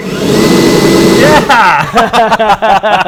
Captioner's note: blower whirs; laughs